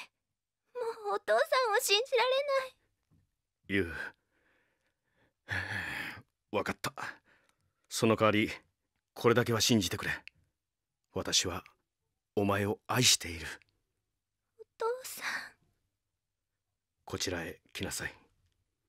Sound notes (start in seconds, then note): 5.4 sigh